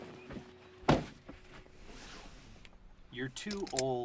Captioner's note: door thuds